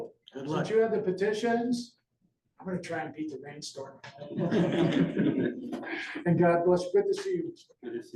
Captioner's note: laughter